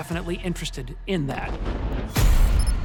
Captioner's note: explosion booms; tense music